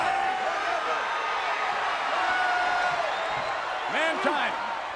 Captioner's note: crowd cheering